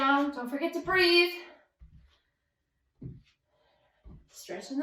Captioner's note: feet pattering